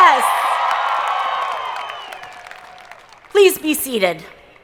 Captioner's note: audience cheering